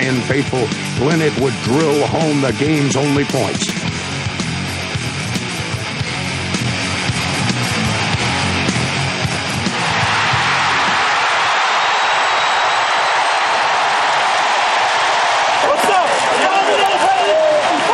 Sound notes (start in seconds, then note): 11.9 crowd cheers; 15.5 team celebrating